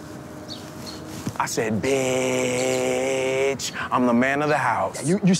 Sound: whispering

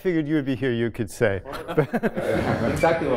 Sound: laughter

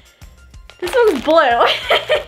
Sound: laughing

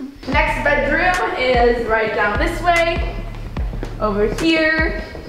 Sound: none

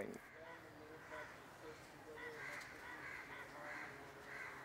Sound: birds squawk

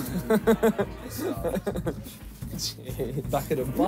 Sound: laughing

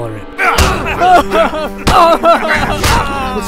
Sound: crying

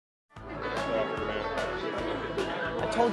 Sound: people chattering

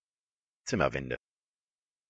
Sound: fast Pronunciation

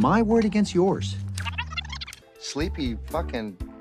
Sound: Carrot Pen Recording Thing Rewinds

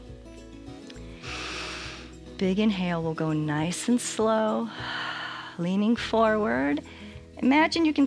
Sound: inhales

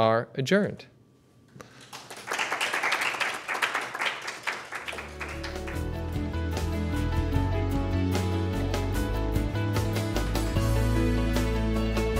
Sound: applause

